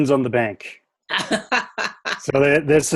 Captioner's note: laughs